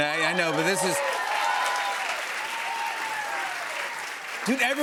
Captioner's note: cheers and applause